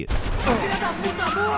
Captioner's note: gunfire banging; enemies grunting; person shouting in foreign language